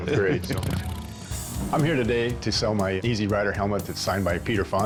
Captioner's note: laughs